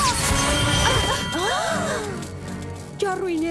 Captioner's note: gasps